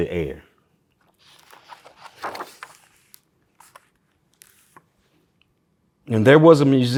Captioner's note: pages rustling